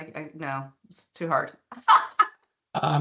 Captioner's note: laughing